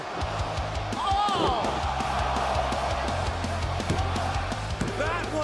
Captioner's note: crowd cheering